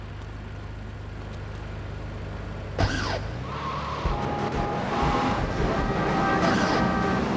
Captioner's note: sirens wailing